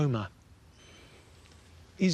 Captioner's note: inhales deeply